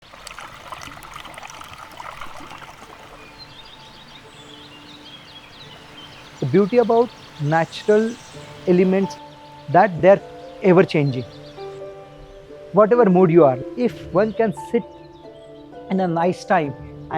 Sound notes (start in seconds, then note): 0.0 water gurgling; 3.9 birds chirping